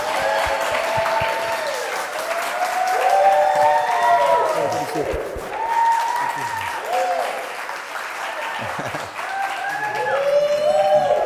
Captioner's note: applause and cheers